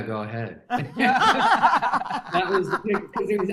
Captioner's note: everyone laughing